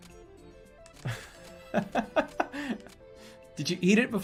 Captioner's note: laughing